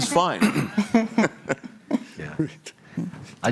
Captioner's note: laughter